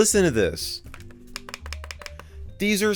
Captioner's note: click-click-click